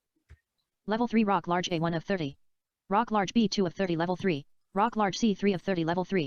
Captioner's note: screen reader audio continues